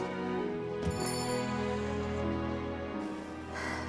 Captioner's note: doorbell chimes; sigh